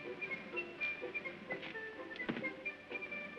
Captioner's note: whimsical music; phone sets down; whimsical music